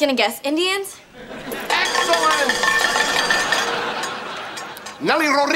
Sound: ringing

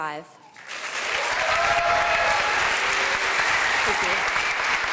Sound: applause

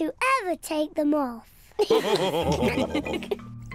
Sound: all laugh

